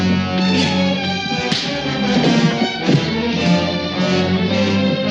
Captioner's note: punches thudding